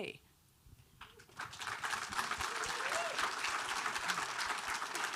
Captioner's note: audience applauding